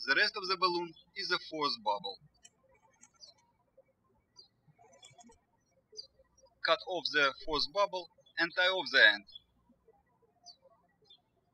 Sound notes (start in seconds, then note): 3.8 birds chirping; 11.3 birds chirping